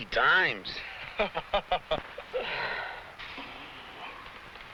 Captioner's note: man laughs